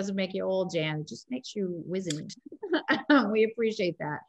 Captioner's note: both laughing